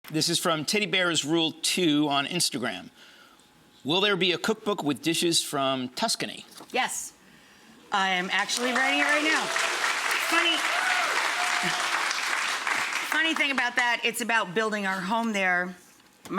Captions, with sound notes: This is from TeddyBearsRule2 on Instagram, "Will there be a cookbook with dishes from Tuscany?" Yes, I am actually writing it right now. (audience applauding) Funny thing about that, it's about building our home there.